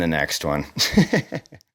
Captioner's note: laughing